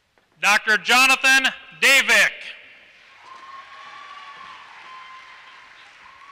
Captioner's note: applause